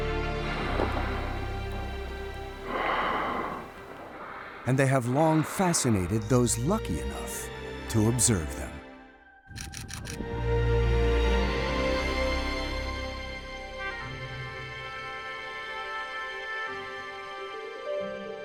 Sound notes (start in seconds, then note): 0.4 water spraying; 9.5 camera shutter clicking